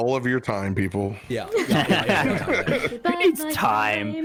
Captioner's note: knowing laughter